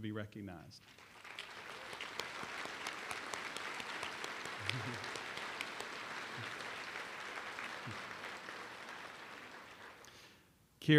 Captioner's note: applause